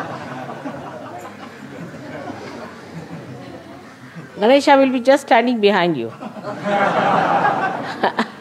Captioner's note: laughter